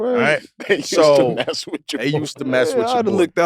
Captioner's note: chuckles